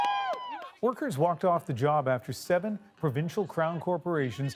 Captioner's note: cheers and applause